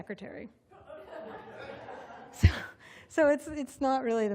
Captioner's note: laughter